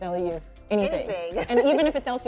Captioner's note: laughs